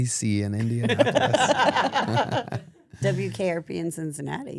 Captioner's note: group laughs